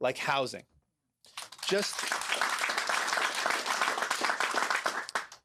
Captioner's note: applause